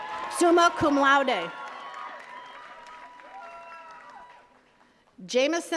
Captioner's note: attendees cheers and claps